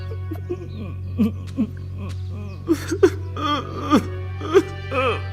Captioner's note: Li Jianheng starts to bawl